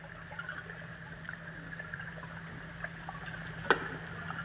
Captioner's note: water trickling